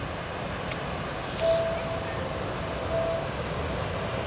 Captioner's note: waves crashing